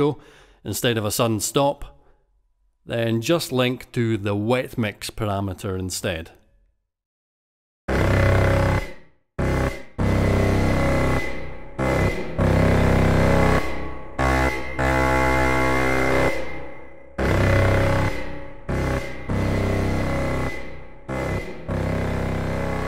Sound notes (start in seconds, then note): 7.5 sound plays like before but with a slightly longer reverb